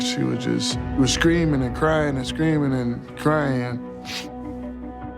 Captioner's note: sniffles